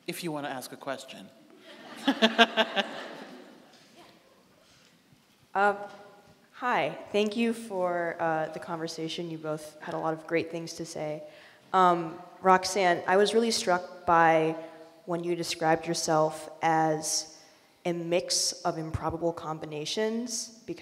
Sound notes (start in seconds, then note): 1.6 laughing; 1.6 audience laughing